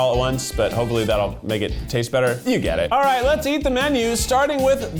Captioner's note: none